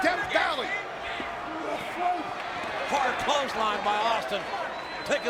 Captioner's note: applause